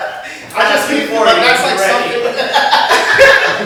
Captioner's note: laughter